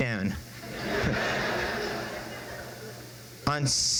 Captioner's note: crowd laughs